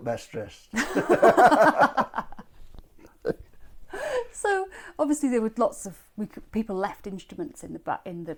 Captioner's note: laughs